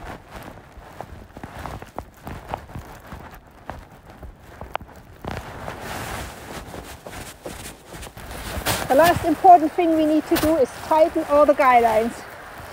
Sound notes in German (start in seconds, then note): 4.5 Geräusch von trampelndem Schnee